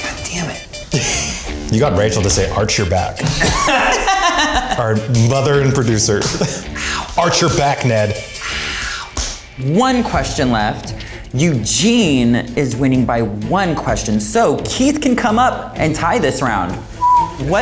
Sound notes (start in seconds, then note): 3.2 all laughing